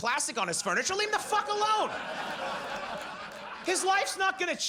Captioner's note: audience laughs